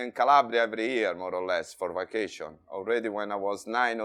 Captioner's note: none